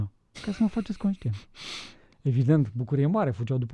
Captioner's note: snoring